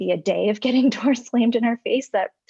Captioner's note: giggles